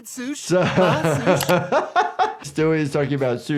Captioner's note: laughing